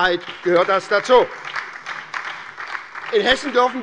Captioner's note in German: Beifall bei der SPD und der Linken